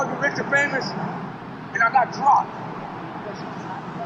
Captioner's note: city noises; noisy city